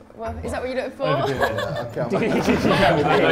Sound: Sidemen chuckle; laughs

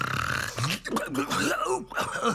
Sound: chuckles

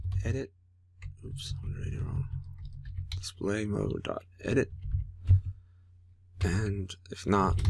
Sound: typing; typing; typing

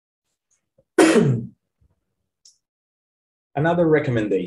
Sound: coughs

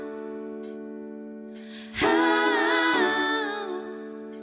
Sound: higher pitch; higher pitch

